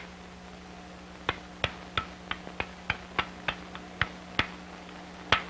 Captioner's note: sound of hammering rock